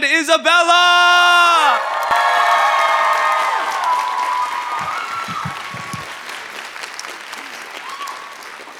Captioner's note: applause